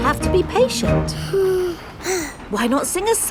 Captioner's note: both sigh